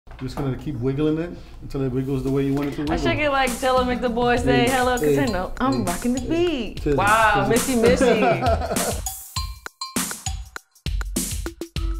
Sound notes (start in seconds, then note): 7.8 laughing; 9.1 lively music